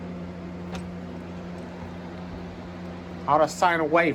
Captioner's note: none